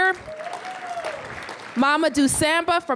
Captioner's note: applause